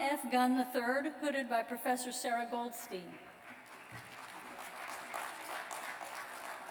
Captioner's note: applause